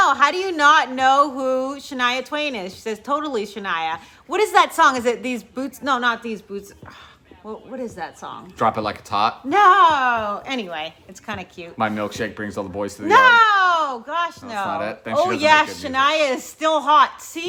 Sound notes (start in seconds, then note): 7.1 sighs